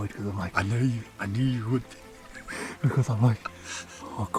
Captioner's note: laughs